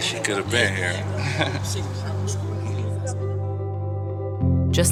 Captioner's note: laughs